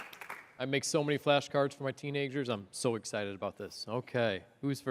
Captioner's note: applause